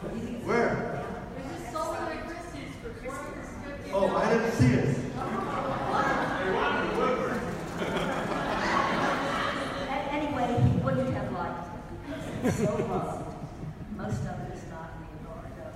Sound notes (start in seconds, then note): 5.2 laughing; 7.9 audience laughs